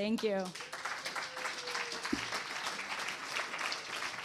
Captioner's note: applause